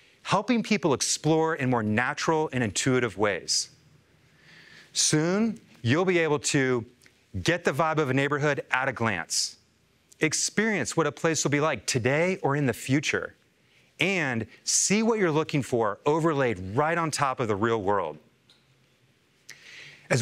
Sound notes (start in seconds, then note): none